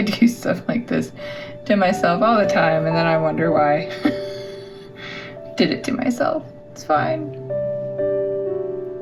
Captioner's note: laugh